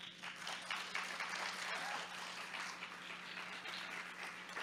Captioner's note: crowd clapping